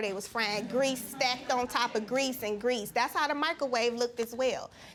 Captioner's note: audience laughing